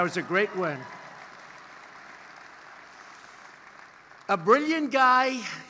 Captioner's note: applause